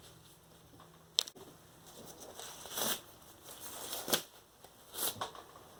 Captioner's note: gloves removed and snapping